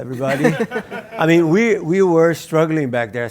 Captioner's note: laugh